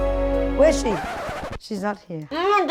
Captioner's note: squealing brakes